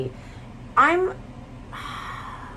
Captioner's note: sighs